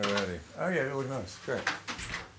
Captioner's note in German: Sie sprechen englisch